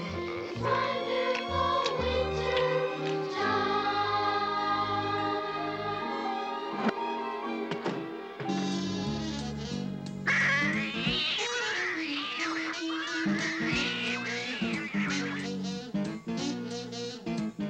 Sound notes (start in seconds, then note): 0.0 yawns; 10.2 yowling